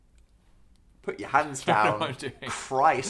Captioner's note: laughing